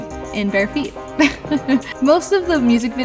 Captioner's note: laughing